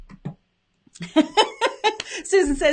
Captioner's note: laughs